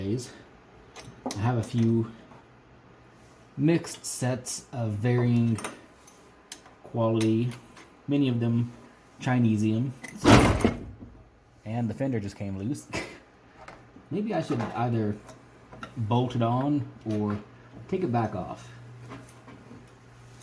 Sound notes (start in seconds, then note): 10.2 thunk